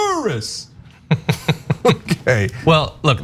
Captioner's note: laugh